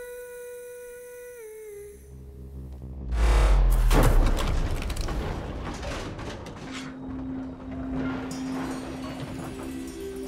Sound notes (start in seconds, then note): 1.9 ominous whirring; 3.7 thudding; 5.6 low rumbling